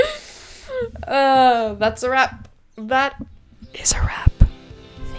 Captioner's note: whispers; whispering all ASMR